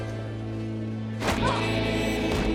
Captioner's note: Joe moans